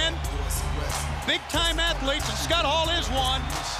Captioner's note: crowd cheering